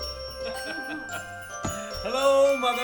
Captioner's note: laughing